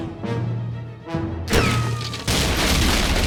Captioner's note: ricochet whistles; decks crashing